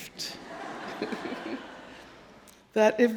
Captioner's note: audience laughing